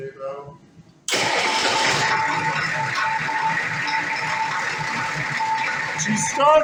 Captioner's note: engine cranks & idles